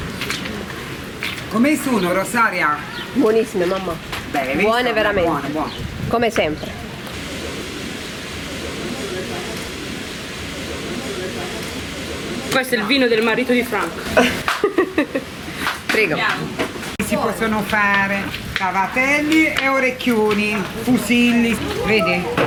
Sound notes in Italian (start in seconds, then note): 14.0 risate